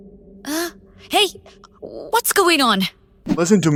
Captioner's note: gasp